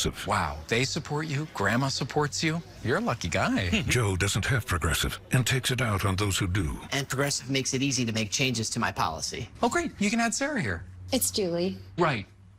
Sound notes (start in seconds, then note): 3.7 chuckles